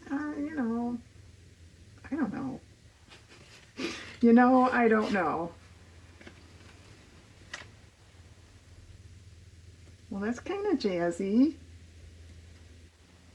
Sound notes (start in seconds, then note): 3.1 laughs